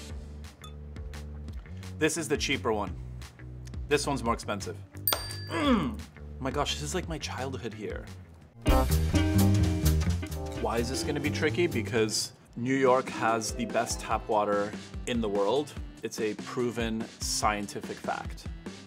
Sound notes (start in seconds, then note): 5.0 dinging; 8.6 quick jazzy music